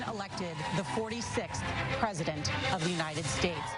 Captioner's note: laughs